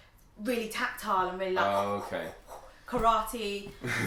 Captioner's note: breathes